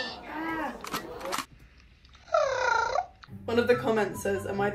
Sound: purrs

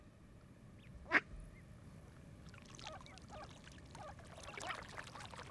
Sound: ducks quacking; water rippling

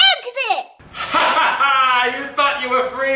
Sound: laughing

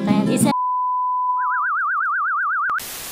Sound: beep with vibrato; static

